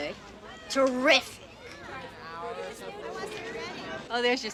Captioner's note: students chatting